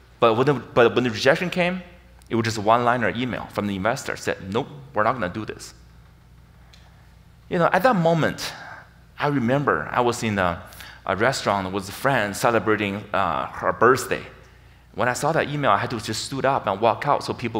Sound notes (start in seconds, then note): none